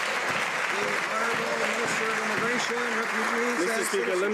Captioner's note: some Applause